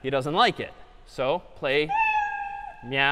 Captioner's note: meow